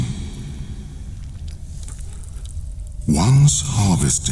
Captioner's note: cave noises